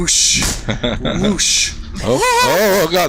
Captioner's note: laughs